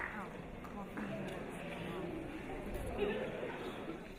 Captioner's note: audience murmuring